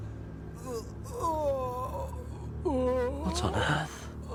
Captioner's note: groaning